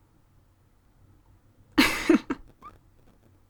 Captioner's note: laugh